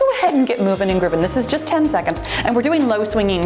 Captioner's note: timer beeps